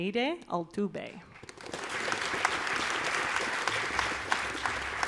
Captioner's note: audience applauding